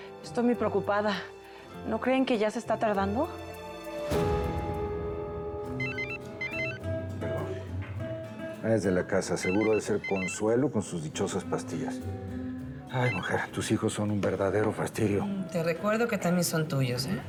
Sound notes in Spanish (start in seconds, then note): 9.3 suena el celular